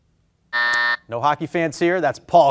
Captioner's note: buzzer buzzing